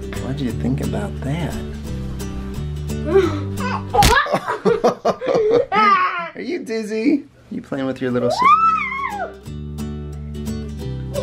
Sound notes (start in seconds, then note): 4.0 splatting; 5.1 laughing